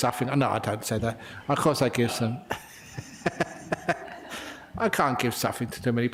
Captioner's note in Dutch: lachen